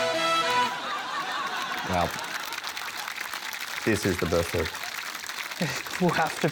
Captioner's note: laughter, applause